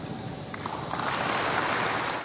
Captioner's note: applause